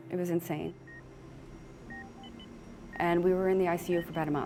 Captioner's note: hospital equipment beeping